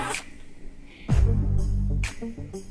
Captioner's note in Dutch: zucht